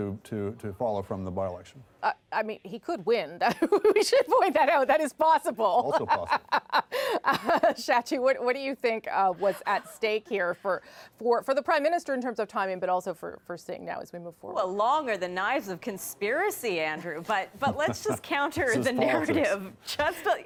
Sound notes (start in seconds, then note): 7.7 laughter